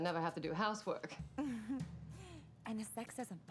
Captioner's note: chuckling